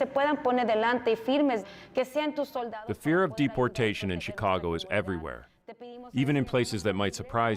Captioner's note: speaking spanish